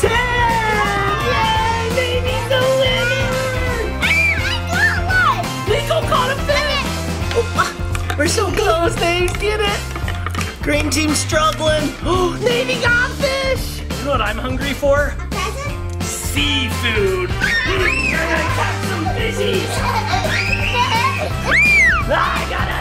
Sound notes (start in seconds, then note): 17.2 kids scream; 20.7 kids laugh and scream